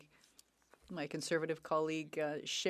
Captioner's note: speaking French